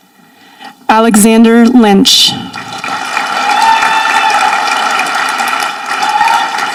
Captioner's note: audience applauding